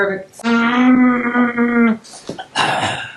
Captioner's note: groans